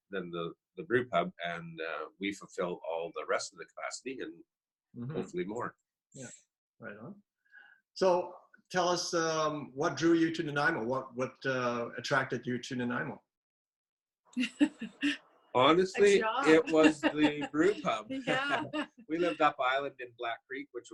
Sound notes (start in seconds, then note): 13.3 chuckles